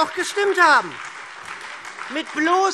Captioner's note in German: Beifall SPD und Freie Demokraten